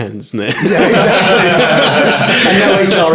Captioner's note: all laughing